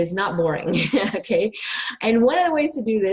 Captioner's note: laughs